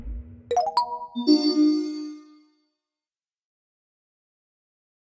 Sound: low, quick beeps; whooshing; melodic beeps; twinkling chimes

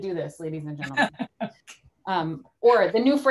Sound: laughs

